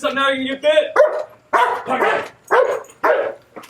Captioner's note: barking